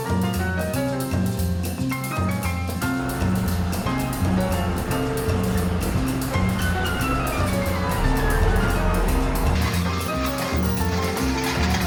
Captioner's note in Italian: Applauso